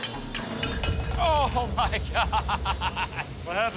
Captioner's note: laughing